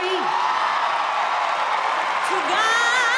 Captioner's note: cheering